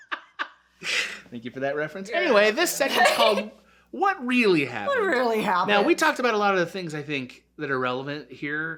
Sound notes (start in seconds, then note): 0.0 laughter